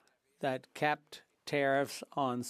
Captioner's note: speaking French